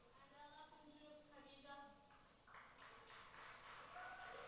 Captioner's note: speaking in a foreign language; audience applauding